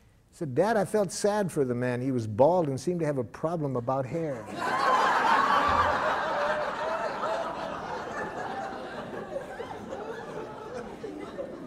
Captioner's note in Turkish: Gülüşmeler